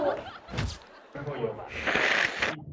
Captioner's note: sniffing